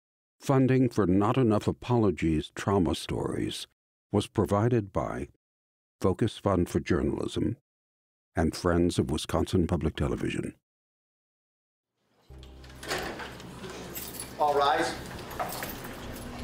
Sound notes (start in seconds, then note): 12.3 door opens; 13.4 hand cuffs clink together